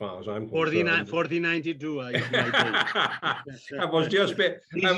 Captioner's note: laughing